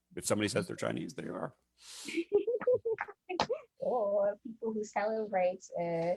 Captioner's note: chuckles